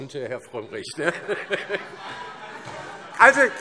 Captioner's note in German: Heiterkeit - Beifall DIE LINKE